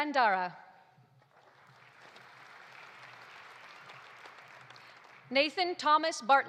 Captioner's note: audience applauding